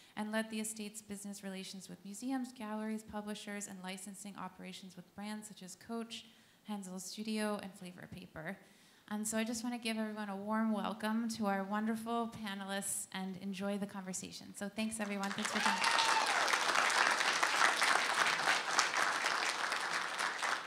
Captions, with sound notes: and led the Estate's business relations with museums, galleries, publishers, and licensing operations with brands such as Coach, Henzel Studio, and Flavorpaper. I just want to give everyone a warm welcome to our wonderful panelists, and enjoy the conversation. Thanks, everyone. Thanks for coming. (applause)